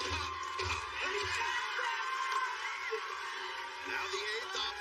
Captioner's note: cheers and applause